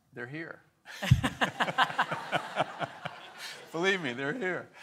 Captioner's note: and audience laughs